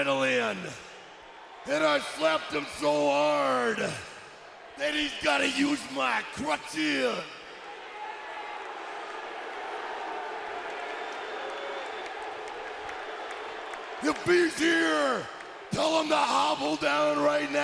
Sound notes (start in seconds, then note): 8.1 crowd cheering